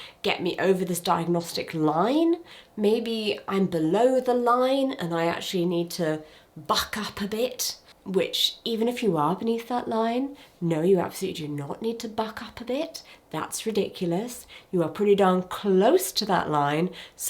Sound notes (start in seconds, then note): none